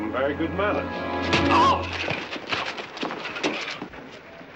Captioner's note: yells